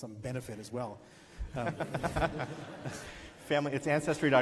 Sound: laughs

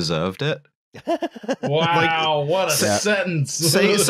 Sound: laughs

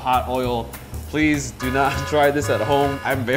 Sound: warning siren

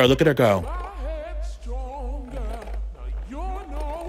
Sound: Beanz rattling

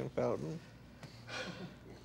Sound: sighs

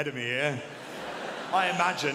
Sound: audience laughing

